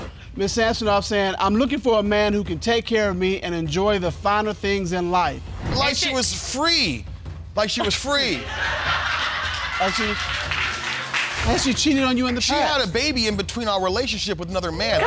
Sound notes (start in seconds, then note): 8.2 audience laughs